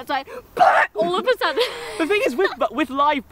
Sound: laughing

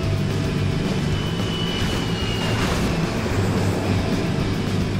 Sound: airplane sounds

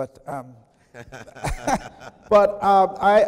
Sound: chuckling

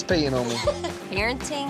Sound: laughter

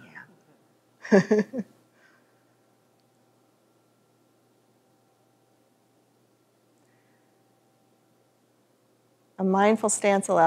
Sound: chuckles

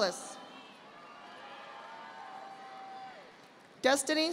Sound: audience applauding

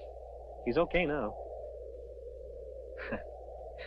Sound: chuckling

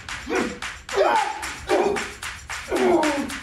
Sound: music fades to rhythmic clapping; cry of pain; grunts of pain

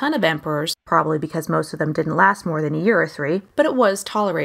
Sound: whispers into hand

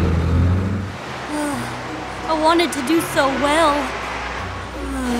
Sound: sighs; sighs

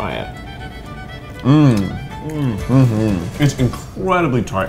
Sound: eating heartily

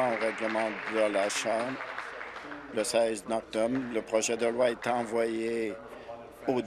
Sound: applause

